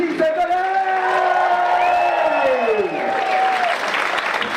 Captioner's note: audience cheer